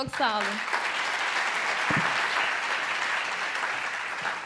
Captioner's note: the audience applauds